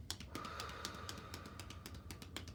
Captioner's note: hands tapping; exhaling deeply; hands tapping